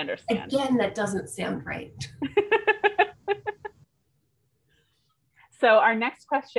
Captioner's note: laughter